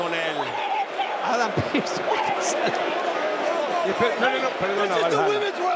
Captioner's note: laugh